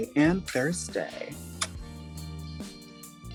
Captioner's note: smacking lips; soft music